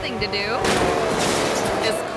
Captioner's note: motorcycles revving; motorcycle crashing